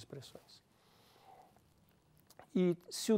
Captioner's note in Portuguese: pausa sonora